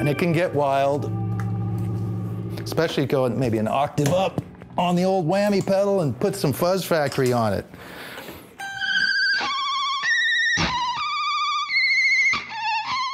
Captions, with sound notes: And it can get wild, especially go maybe an octave up on the old whammy pedal and put some Fuzz Factory on it. [HEAVILY DISTORTED REVERB]